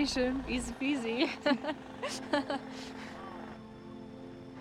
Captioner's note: laughter